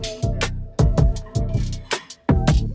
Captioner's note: none